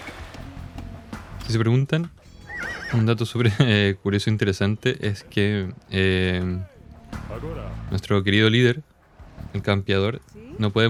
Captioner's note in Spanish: risas